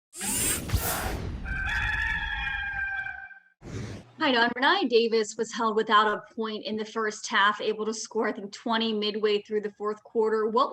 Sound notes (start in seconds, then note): 1.4 cock crows